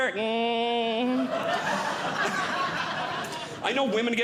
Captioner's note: audience Laughing